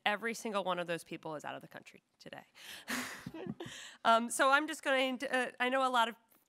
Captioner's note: laughs